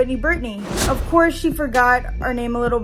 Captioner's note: air whooshes